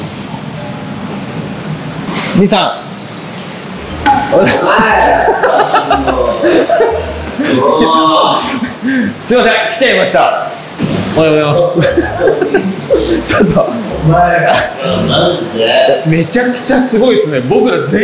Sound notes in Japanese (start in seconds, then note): 3.9 鼓 効果音; 5.0 笑い声